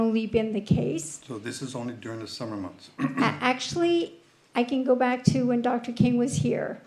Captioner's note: clears throat